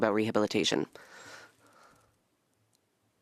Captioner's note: speaking French